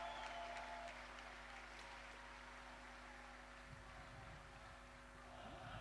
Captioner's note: applause